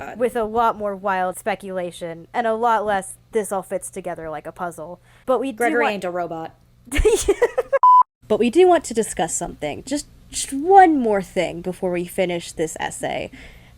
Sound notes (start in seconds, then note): 6.9 laughs